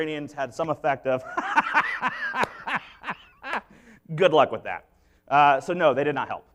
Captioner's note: laughing